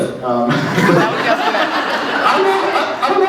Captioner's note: laughs